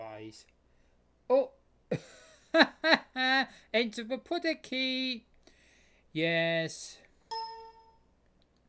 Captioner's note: chuckles